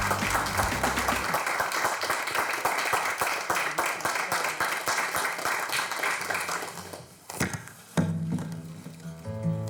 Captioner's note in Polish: Aplauz